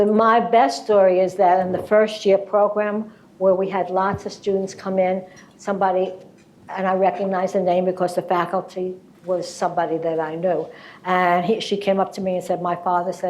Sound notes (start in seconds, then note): none